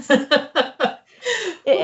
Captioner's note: laughs